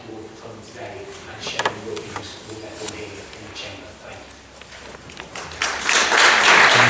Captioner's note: applause